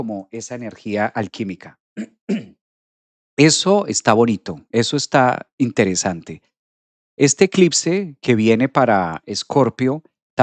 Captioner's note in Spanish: carraspeo